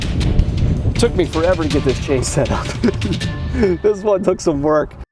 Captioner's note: laughs